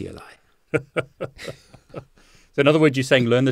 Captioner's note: both laugh